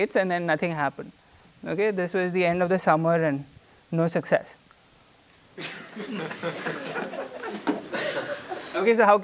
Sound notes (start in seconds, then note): 5.6 laughter